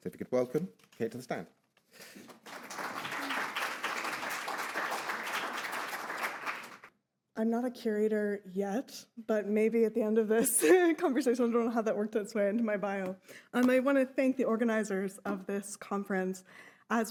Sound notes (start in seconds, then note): 2.1 audience applauds